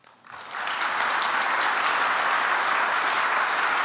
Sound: audience applauds

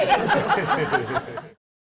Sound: laughter

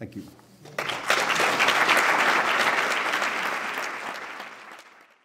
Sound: applause

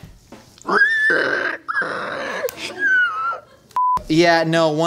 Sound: donkey Noises

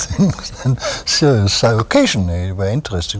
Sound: laughter

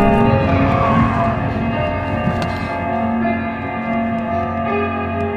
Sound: car screeches to a stop, music still glaringly loud

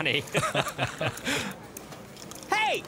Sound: both laugh

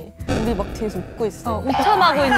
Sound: the other members were laughing

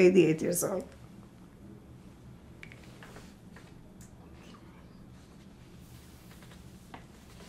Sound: pauses 24 seconds

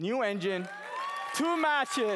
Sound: cheering

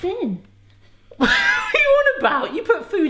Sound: laughs

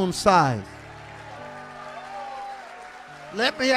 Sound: congregation cheering

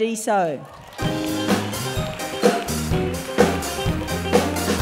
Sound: cheering and applause

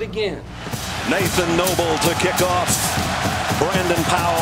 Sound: voiceover

